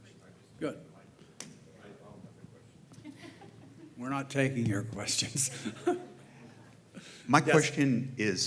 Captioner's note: laugh